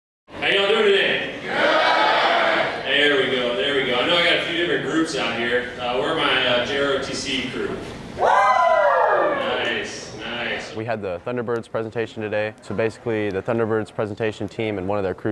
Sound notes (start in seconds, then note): 8.2 audience: "WHOO!"